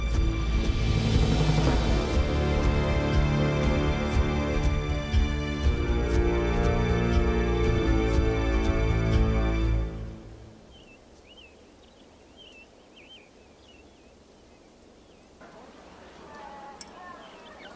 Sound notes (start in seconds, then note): 2.4 dramatic music; 10.7 birds chirping